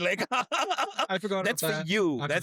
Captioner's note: laughing